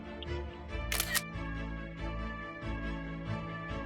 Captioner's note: camera shutter sound